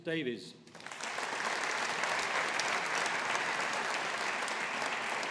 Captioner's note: audience applauding